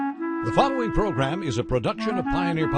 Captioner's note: voiceover